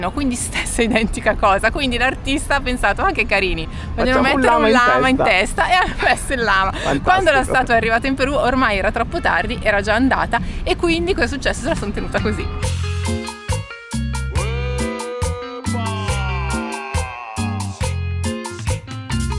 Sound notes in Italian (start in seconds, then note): 5.7 risate